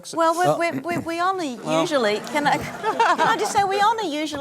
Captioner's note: laughter